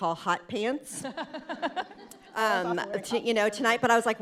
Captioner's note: chuckles